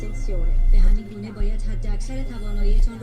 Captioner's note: TV sound